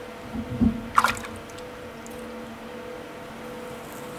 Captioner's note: splashing